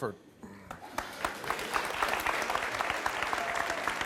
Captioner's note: audience claps